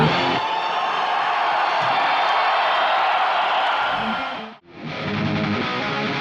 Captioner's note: cheering